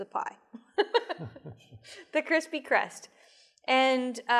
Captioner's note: laughs